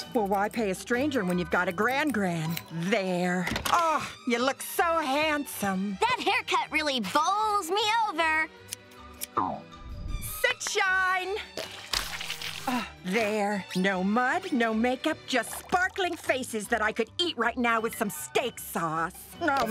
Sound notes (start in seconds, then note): none